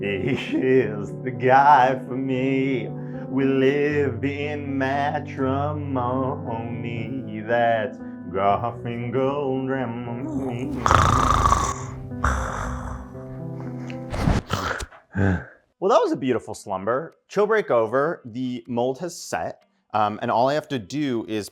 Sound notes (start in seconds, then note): 10.2 snoring